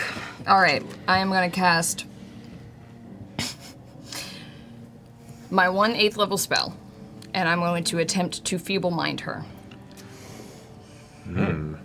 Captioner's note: laughs